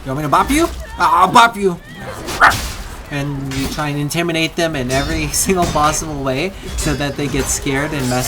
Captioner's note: bark